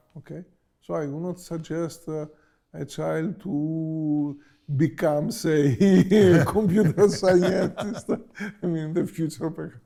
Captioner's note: laughs